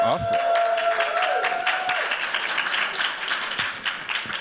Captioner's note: cheers, applause